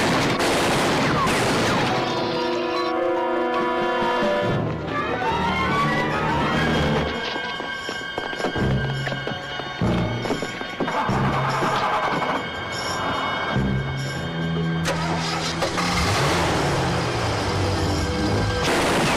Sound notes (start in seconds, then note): 0.0 guns firing; 2.9 dramatic music; 11.7 car starting